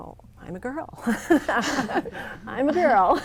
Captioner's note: laughs